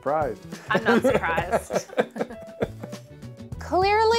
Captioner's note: laughter